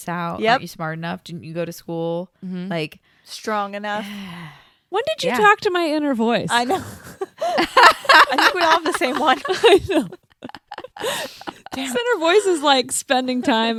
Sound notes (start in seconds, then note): 6.5 laughs; 10.7 everyone laughs